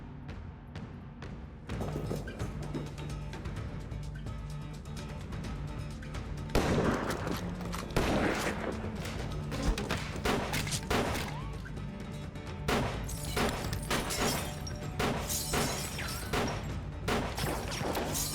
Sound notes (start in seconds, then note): 6.5 gunshots banging; 13.0 glass shattering